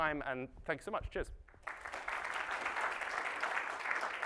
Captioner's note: applause